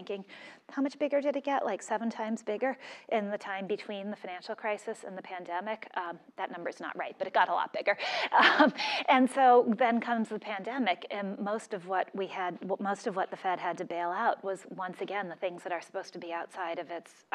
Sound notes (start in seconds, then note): 7.7 laugh